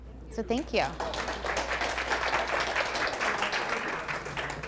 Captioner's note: applause